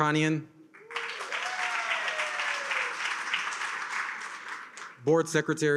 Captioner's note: attendees cheer and applaud